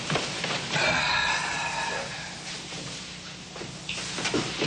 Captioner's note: sighs